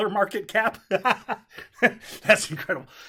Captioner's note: laughing